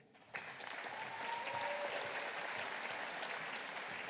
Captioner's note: audience applauding